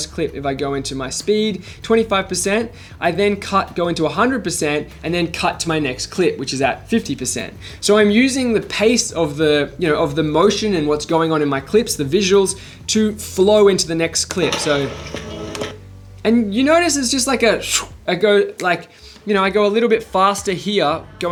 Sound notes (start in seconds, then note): 15.3 upbeat music; 17.4 blows